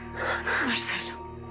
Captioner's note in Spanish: Sollozos